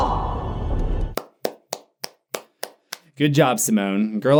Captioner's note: clapping